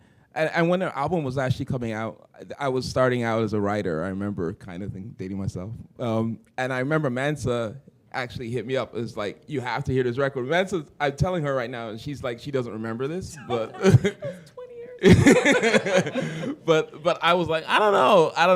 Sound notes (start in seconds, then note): 13.4 chuckle; 15.0 laughter